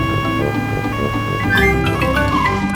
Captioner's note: siren wailing